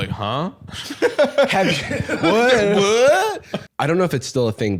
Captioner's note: laughs